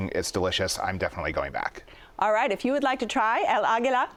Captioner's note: none